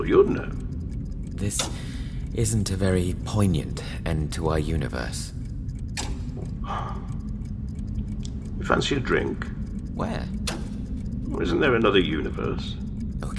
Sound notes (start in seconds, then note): 6.6 sighs